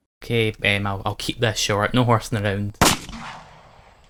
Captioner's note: gunshot